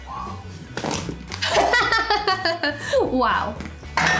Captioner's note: laughs